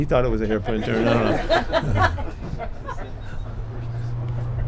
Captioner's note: people laughing